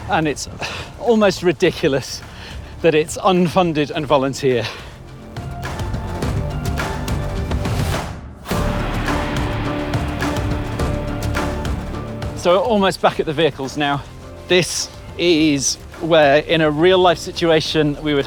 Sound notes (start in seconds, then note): none